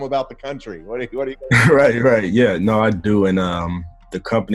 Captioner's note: chuckles